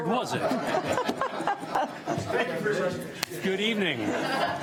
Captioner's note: audience laughs